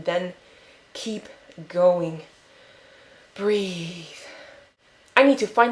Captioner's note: inhale